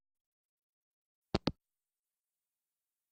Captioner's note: hangup